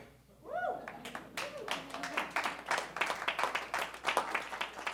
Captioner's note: audience cheering